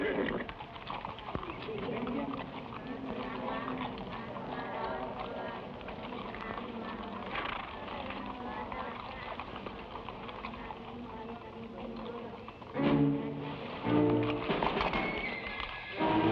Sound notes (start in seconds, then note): 0.0 horse neighs; 4.1 people praying; 12.7 suspenseful music